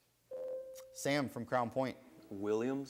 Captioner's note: buzzer sounds